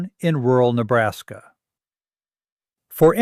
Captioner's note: pause